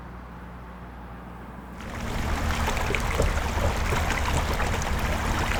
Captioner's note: running water